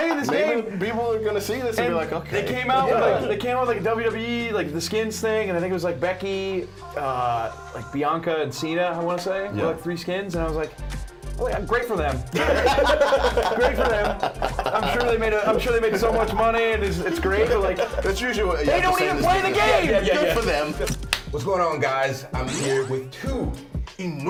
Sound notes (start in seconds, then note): 12.3 laugh